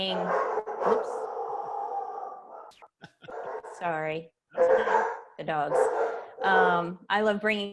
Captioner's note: dogs barking